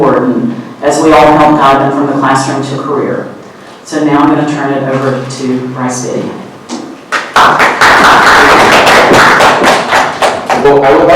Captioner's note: clapping